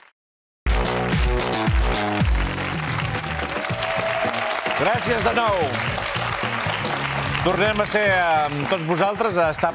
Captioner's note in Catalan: aplaudiments